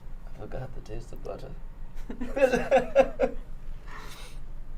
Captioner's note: laughs